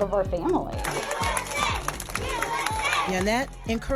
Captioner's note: kids chanting "USA"